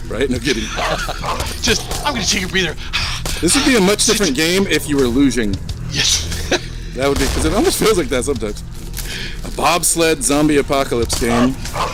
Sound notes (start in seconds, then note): 0.4 laughs; 0.5 heavy breathing sounds; 6.0 laughing